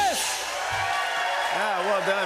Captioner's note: cheers and applause